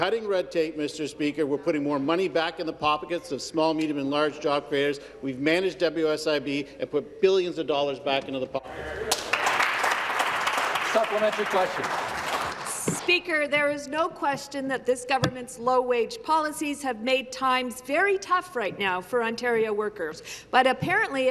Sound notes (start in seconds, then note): 13.1 some Applause